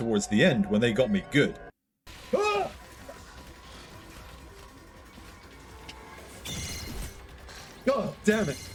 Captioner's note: screams